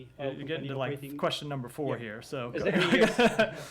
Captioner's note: laughter